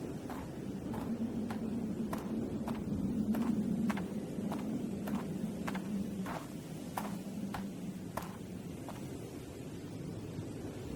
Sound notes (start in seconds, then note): 0.2 wind whistling; 6.2 footsteps crunching continues